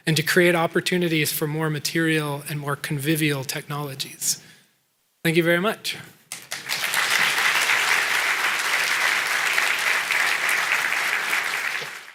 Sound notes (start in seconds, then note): 8.0 applause